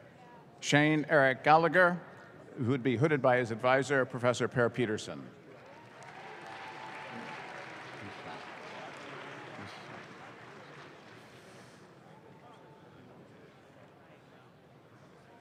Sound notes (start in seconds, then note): 5.5 audience claps